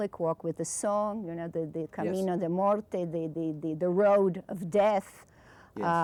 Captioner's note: speaking Spanish